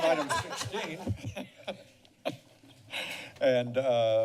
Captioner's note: laughter